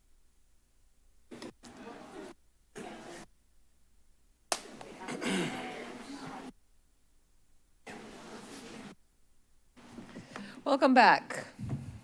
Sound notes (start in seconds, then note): 0.0 silence; 2.5 rustles; 5.0 clears throat; 6.8 silence